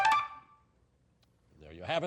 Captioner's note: beeping